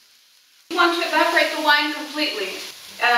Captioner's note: sizzling